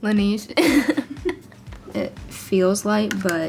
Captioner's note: chuckles